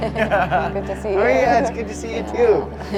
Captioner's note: laughing